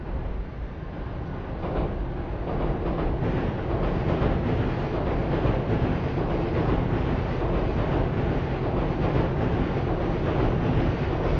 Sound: train Noises

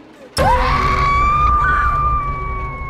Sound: Sandra screams; Sandra, Pilar and Shelley scream

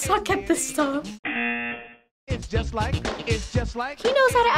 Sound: buzzer

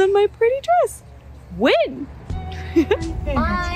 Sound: laugh

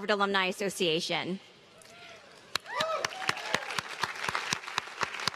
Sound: applause

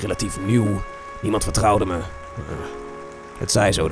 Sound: groans

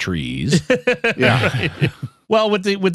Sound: laughing

